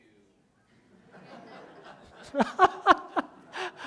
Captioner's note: laughter